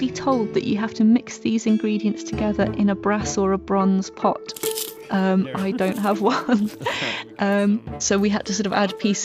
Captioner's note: laughs